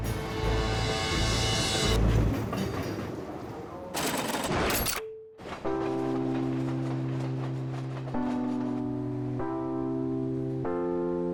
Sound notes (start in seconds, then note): 0.0 dramatic music; 0.0 train rumbling; 4.0 machine humming; 4.0 part clicking; 4.9 gentle music; 5.4 train rumbling